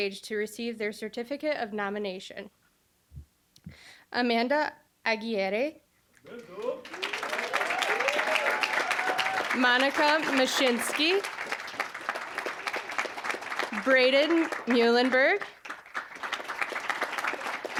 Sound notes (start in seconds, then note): 6.7 cheering, applause; 11.7 applause; 16.1 applause